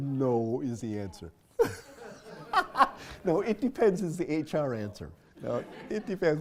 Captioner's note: laugh